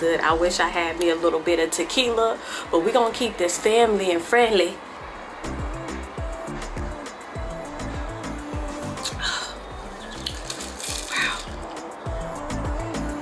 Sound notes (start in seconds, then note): 5.4 bright music; 9.2 sighs